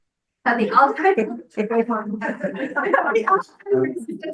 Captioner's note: members laughing